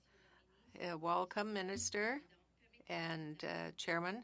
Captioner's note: speaking french